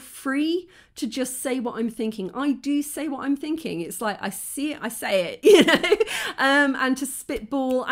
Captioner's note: laughing